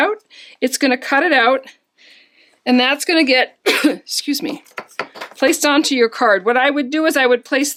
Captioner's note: coughed! - Excuse me!